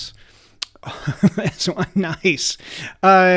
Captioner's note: chuckles